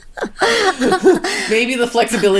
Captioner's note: both laughing